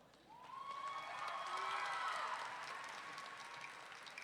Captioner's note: audience cheering